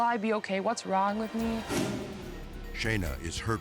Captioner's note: air whoosh